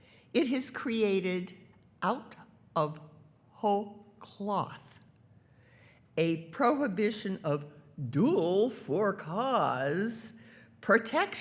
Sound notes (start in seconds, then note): none